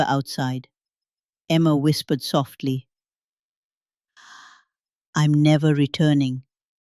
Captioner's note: breathes deeply